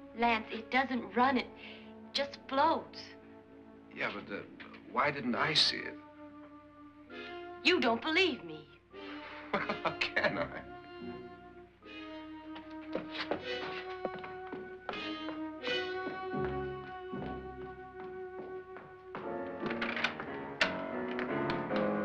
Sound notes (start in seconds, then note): 9.3 laughing; 14.0 indignant footsteps; 14.0 ominous music; 19.2 door opens; 19.4 ominous music